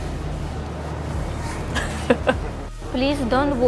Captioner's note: giggle